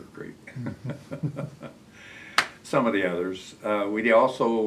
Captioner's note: laughs